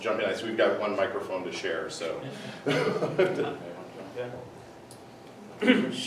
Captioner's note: laughs